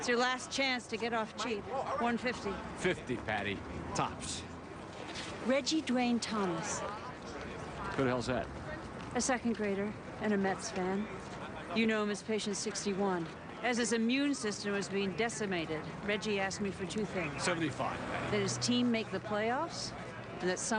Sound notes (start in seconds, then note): none